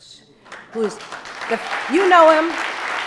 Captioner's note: audience applauding